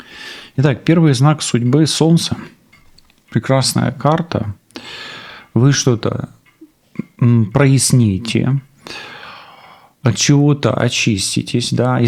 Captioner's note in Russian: вздыхает